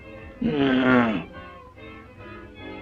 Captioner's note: groans